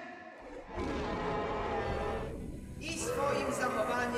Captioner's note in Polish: w tle groźne porykiwania